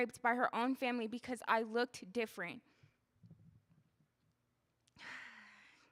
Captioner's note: sighing